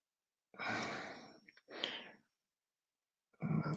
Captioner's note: sighs